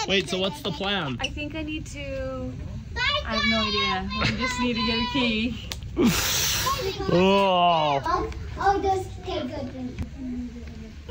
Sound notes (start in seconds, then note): 6.0 groans